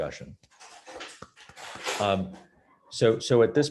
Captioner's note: clapping